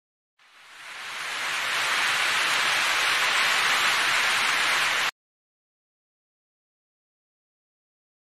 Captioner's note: applause